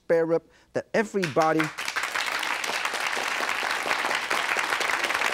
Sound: audience claps

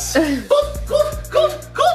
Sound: laughing

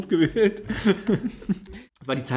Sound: laughs

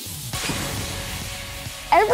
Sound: metallic thud

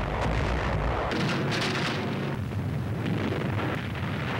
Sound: loud explosions

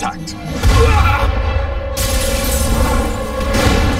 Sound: groaning

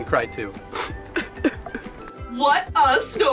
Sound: pacified sobbing

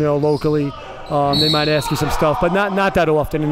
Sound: whistle blows

